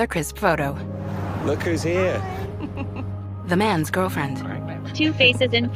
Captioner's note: laughs